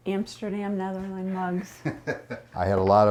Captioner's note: laughs